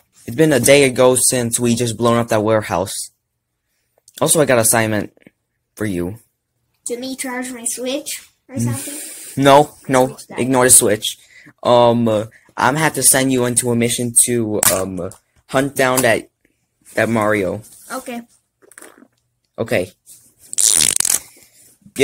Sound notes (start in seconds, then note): 20.5 Teddy Farting